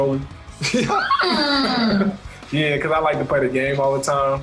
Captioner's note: squeals